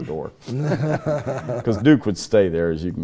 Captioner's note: laugh